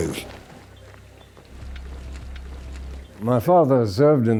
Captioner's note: boots pattering